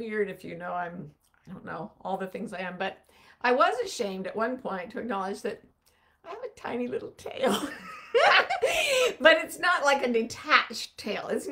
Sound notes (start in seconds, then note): 7.5 laughing